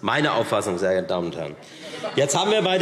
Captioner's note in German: Zurufe DIE LINKE